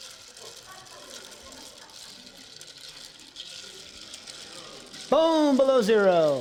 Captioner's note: laughter